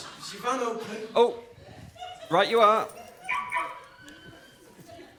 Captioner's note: Will's van unlocks with a beep